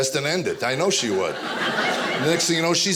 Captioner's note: audience laughing